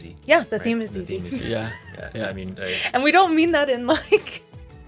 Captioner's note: laughs